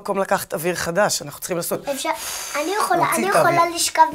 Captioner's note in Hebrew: נשיפה